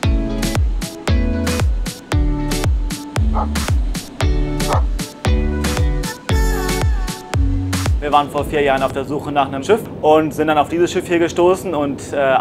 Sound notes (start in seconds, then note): 3.3 dog barks